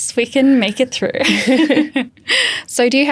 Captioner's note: chuckle